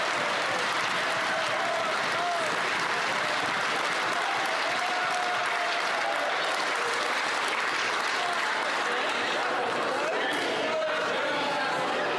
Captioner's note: some Applause